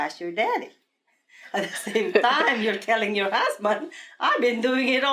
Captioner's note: laughs